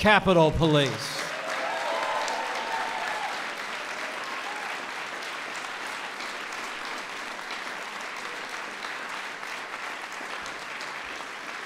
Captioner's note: applause